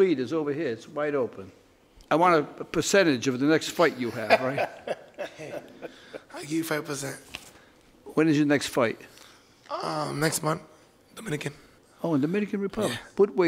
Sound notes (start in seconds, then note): 4.0 laughing